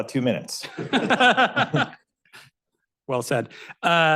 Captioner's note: laughs